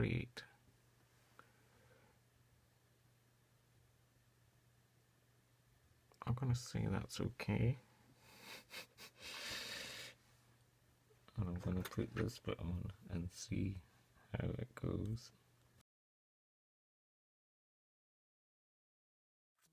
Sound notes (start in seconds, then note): 8.2 chuckle